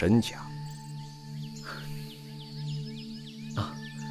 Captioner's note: Chu Yuan sighs, almost inaudibly